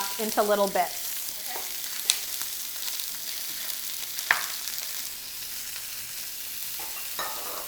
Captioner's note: sausages sizzling